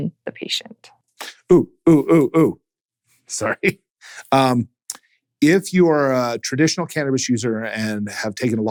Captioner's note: chuckles